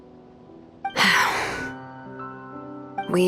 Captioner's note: sigh